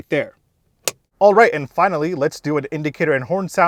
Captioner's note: cover snaps shut